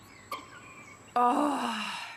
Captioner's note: sighing